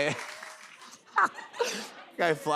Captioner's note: laughs